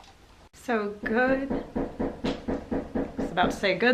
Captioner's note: knock at door